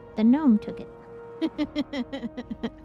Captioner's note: laughter